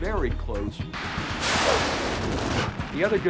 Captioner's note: jet engine roaring